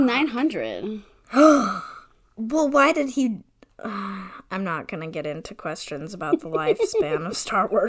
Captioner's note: gasps